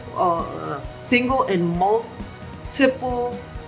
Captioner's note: groans